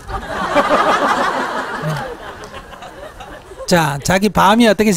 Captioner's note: audience Laughter